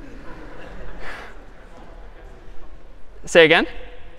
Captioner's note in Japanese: 笑い